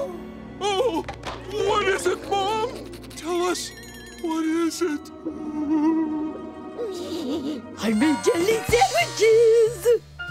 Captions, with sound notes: Oh. What is it, Mom? Tell us. What is it? [groaning] I made jelly sandwiches.